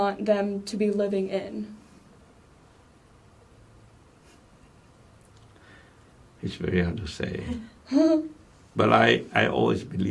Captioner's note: laughs